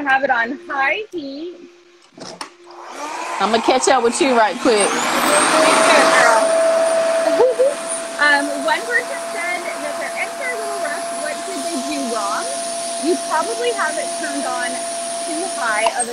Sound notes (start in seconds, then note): 5.9 RevAir whirs